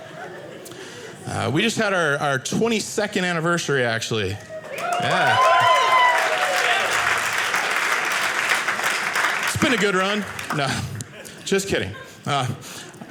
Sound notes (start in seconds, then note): 4.5 audience cheering